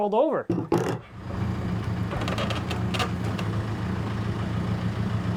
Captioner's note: engine rumbling